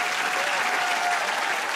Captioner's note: cheers and applause